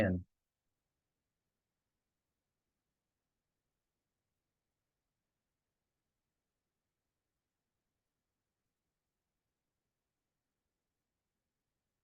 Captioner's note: pause